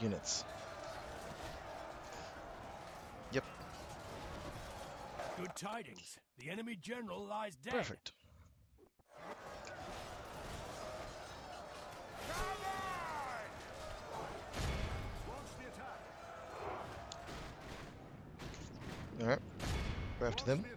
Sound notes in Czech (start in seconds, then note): 13.5 Potlesk